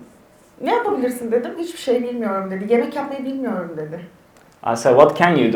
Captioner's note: speaks in Turkish